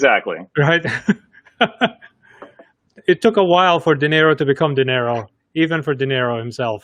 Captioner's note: laughing